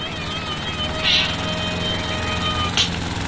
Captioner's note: lawnmower buzzing; music playing faintly